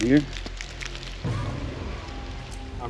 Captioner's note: sharp thudding